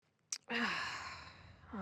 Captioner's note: swallows